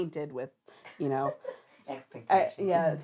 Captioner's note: laughing